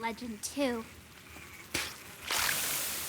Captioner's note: flyders buzz, spit; steam hissing